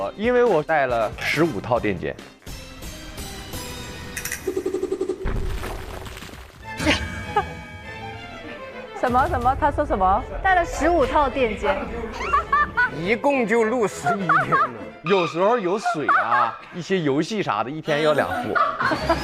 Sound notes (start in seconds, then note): 11.8 hahaha